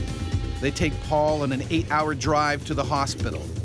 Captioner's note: voiceover